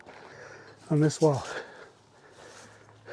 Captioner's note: catching my breath